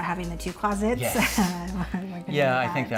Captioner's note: laughing